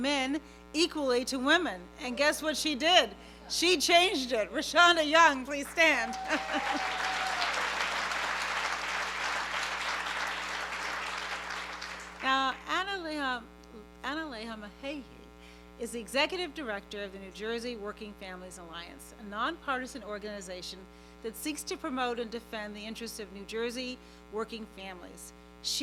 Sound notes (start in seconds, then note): 5.6 applause; 7.8 cheering